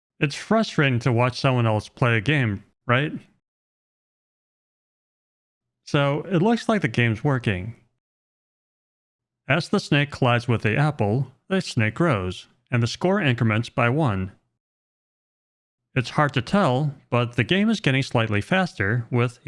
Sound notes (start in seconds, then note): none